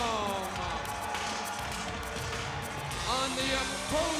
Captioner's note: audience cheers